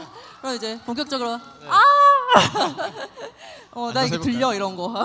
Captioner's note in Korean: 환호